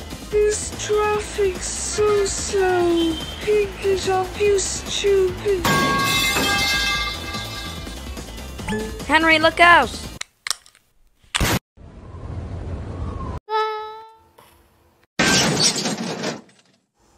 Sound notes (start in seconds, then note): 5.7 crash!; 11.1 kaboom!!!; 15.2 crash!